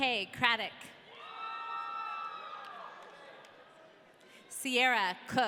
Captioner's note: audience cheering